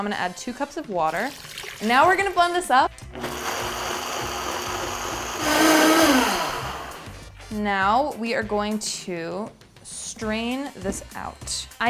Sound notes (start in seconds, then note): 3.1 blender machine noises